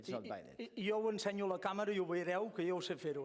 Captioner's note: non-english speech